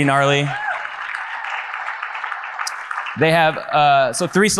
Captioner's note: audience applauds